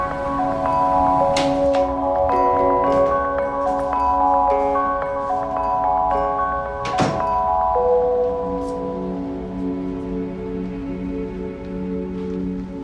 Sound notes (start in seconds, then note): 0.1 door creaks